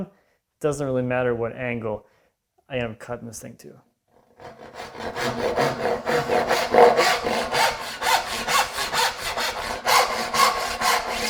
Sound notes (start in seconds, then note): 4.4 saw on wood rhythmically rasping